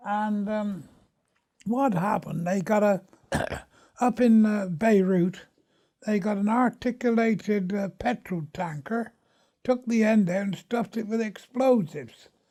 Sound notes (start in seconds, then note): 3.2 huh,huh, clearing throat